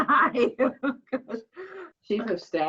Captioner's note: laughs